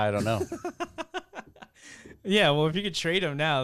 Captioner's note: laughs